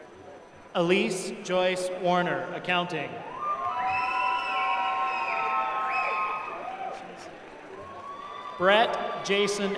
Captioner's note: applause